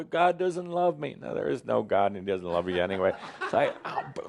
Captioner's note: laughter